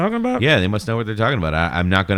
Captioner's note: uh